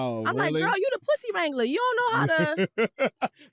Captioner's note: laughter